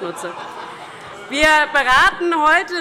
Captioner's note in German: Allgemeine Heiterkeit